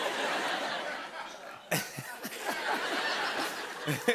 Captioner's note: laughter